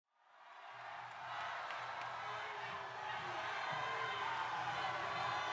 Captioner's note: crowd cheering